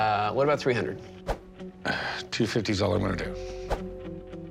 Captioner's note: sighs softly